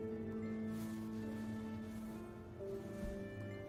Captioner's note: echoing footsteps